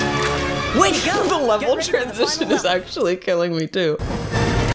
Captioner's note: laughing